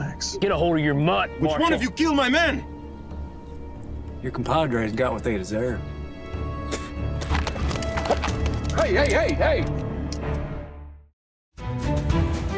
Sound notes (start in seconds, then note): 6.6 spits; 7.2 weapons being drawn